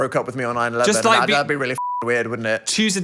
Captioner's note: beep